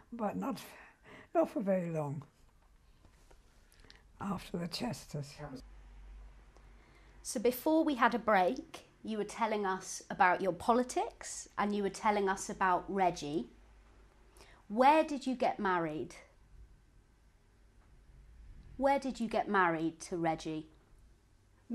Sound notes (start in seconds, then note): 15.8 pauses for 3 seconds